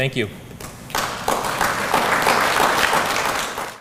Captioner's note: applause